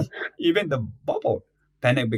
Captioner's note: laughs